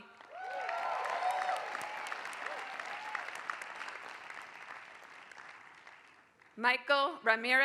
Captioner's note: applause